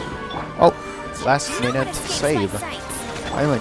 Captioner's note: accidental robotic voice